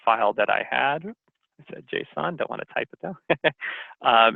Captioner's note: laughs